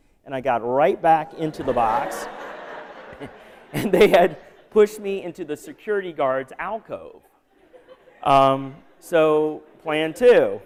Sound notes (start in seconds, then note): 1.4 laughter; 7.5 laughter